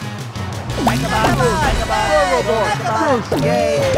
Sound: cheering

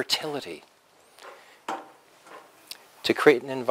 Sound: pause

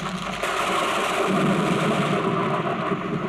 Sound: thunder crashing

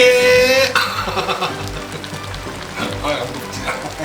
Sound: laughing

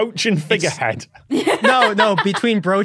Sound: guffaws

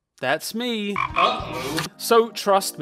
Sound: frog ribbits

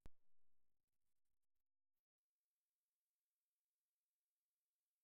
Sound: silence

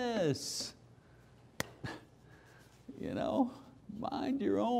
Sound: clap

